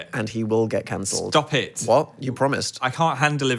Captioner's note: none